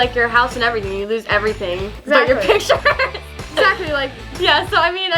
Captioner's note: laughs